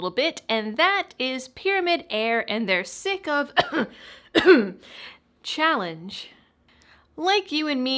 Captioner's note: cough